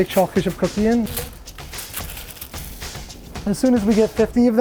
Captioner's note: paper squeaking